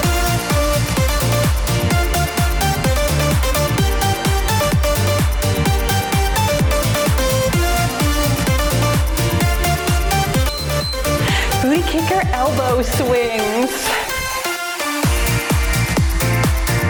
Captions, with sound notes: (timer beeps) Knee kicker elbow swings. (cheerful music)